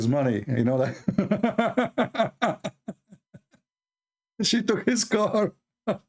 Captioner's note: Ketawa; Ketawa